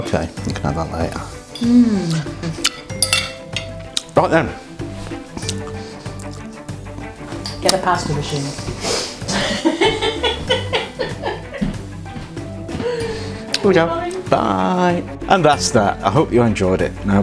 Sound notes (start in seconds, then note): 9.2 giggles